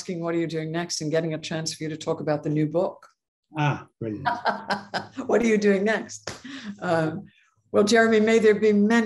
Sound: laugh

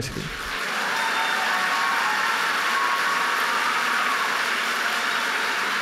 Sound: audience cheering and applauding

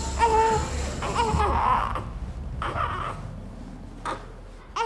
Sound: baby crying

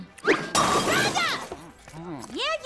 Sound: crashing

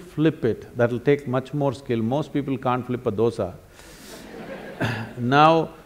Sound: laughter

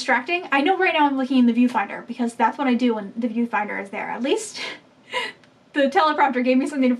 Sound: laughing

